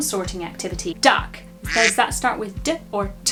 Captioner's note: quacking